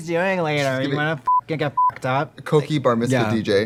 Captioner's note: beeping